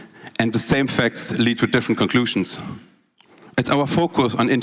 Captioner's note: none